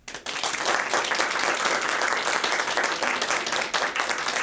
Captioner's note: audience clapping